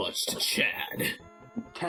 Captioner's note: mocking